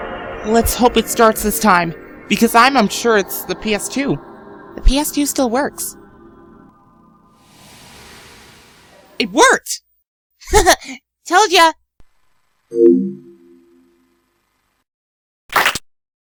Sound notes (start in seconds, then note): 12.7 PS2 logo sound